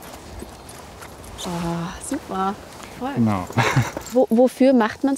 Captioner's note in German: lacht